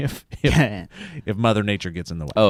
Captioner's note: chuckles